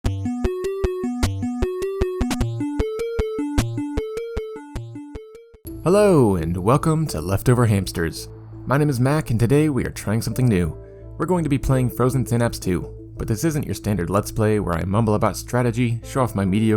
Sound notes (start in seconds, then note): none